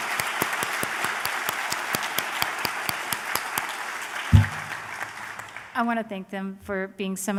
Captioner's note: applause